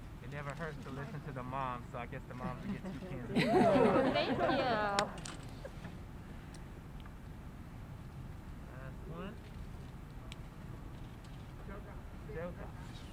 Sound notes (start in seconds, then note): 2.4 laughing